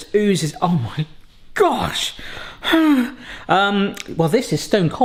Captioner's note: sighs